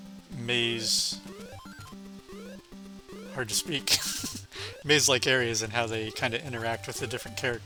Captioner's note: laughs